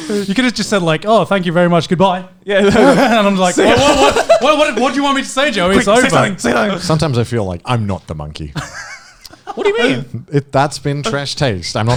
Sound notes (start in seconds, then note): 8.5 laughing